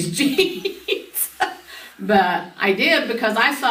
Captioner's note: laughs